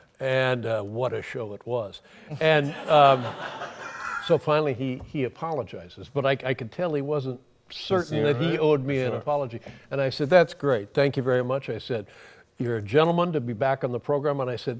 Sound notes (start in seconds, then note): 2.4 laughter